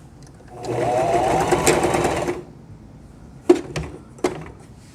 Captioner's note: sewing machine whirring